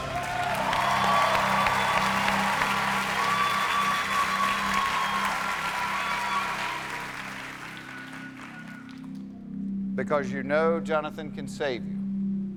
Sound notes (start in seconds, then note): 2.5 cheers and applause